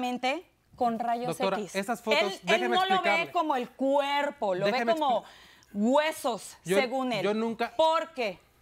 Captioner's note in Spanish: Hablan al unísono